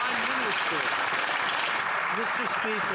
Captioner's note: some Applause